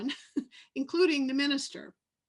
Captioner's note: laughs